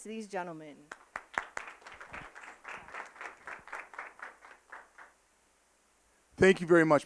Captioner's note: applause